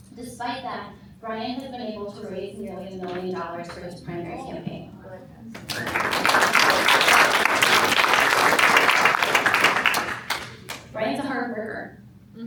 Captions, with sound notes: Despite that, Brian has been able to raise nearly a million dollars for his primary campaign. [APPLAUSE] Brian's a hard worker.